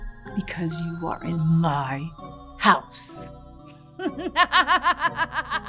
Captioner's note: laughs maniacally